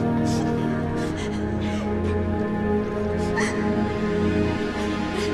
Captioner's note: whimpering and crying